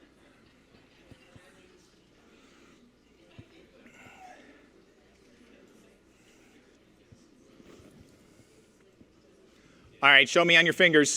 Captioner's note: audience Discusses